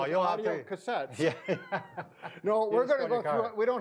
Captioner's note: laughs